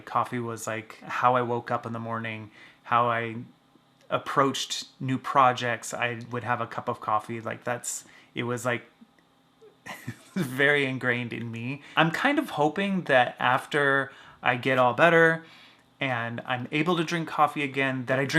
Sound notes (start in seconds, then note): 9.8 laughs